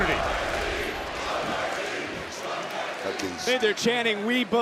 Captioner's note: crowd shout